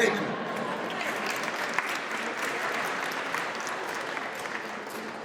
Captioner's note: audience applauds